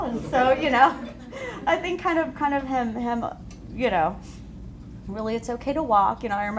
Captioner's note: laughter